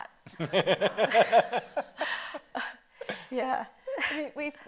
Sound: laughter

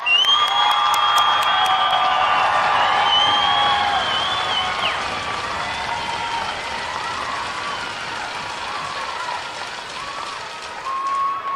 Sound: cheering and applause

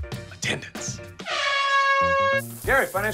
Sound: air horn

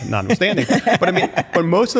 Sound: laughter

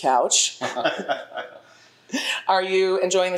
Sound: panel members laugh

